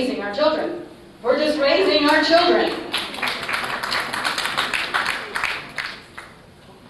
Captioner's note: applause